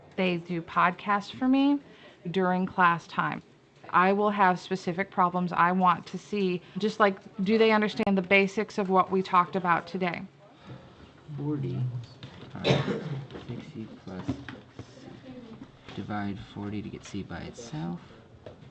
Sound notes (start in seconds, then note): 15.5 coughs